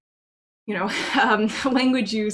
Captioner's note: chuckles